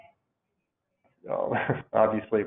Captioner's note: laughs